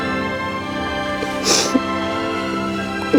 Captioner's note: crying